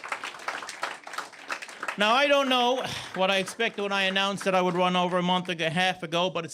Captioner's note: cheers and Applause